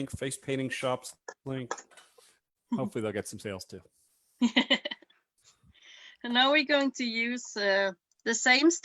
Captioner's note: chuckles